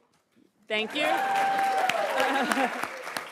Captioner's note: attendees cheering and applauding; applauds and laughs